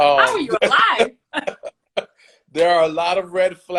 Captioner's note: laughs